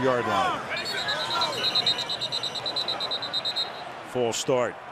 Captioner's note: whistle blows